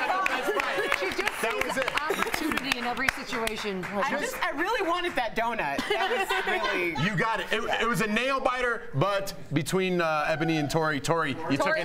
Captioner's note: laughter